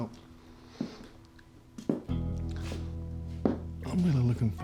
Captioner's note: scottish accent; footsteps